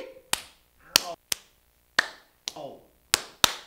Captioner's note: clapping hands